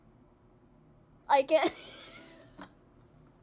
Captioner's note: laughing